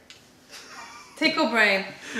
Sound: laughter

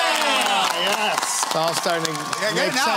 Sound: cheering

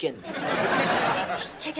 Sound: laughing

